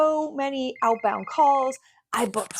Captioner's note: phone rings